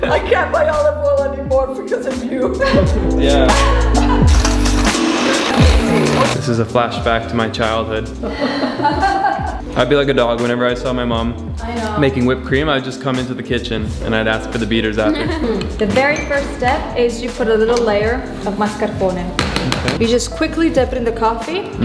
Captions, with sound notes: - I can't buy olive oil anymore because of you. (mixer whirring) - This is a flashback to my childhood. (laughs) I'd be like a dog whenever I saw my mom making whipped cream I would just come into the kitchen and I'd ask for the beaters after. - The very first step is, you put a little layer of mascarpone. You just quickly dip it into coffee.